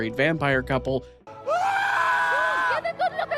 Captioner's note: screaming